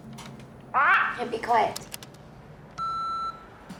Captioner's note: kitty squawks; answering machine beeps